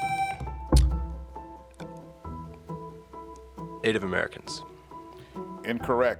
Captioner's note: tone sounds